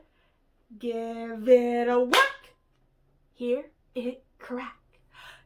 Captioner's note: clap